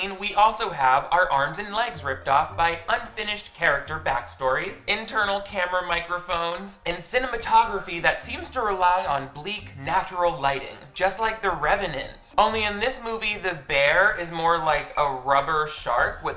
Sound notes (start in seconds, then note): none